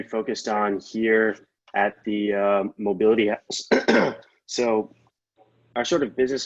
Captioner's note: clearing throat